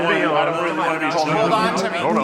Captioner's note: group chattering